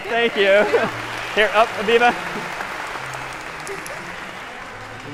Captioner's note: applause